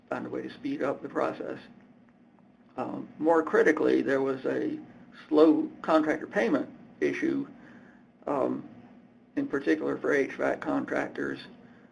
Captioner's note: hvac